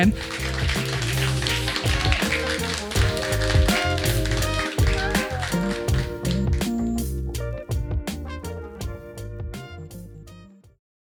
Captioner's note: applause